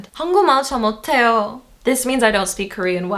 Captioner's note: speaking Foreign Language